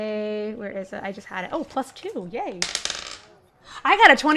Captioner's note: dice clacks